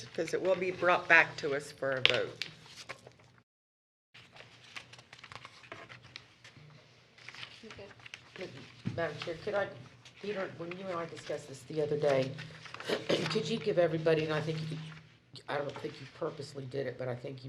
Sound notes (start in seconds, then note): 7.1 shuffling of paper